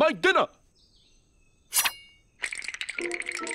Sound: clang; teeth chattering

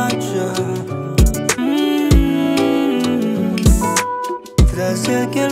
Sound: hmm-mm-mm-mm

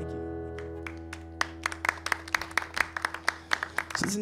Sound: applause

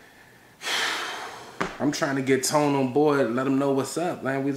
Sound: sighs

